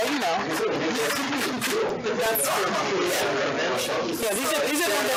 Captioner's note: indistinct chatter